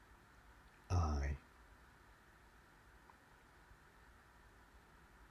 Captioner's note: silence